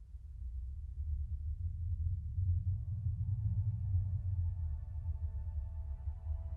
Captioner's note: low thrumming